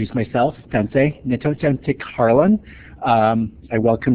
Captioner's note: speaks in Native language